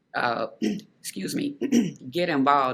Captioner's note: clearing throat